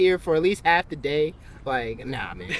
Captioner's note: laughter